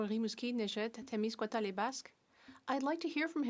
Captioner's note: speaking French